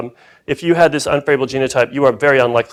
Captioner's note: none